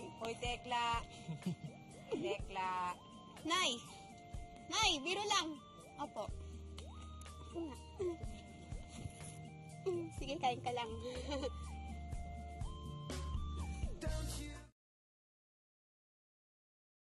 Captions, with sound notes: -Hey, Tekla. -[Rodel chuckles] Tekla. Mom? Mom, I'm just kidding. Yes. Yes, you're right. Go ahead and eat. [chuckles]